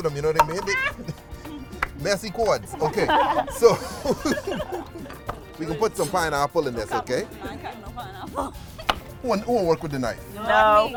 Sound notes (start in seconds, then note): 2.2 laughs